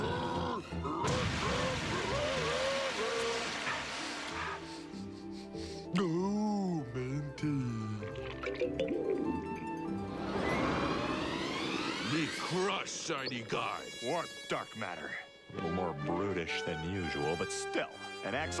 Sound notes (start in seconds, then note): 4.3 sniffing